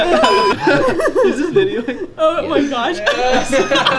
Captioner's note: laughing